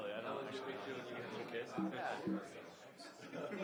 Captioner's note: speaking away from mic; audience murmuring